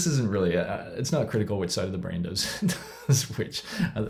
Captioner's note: laughs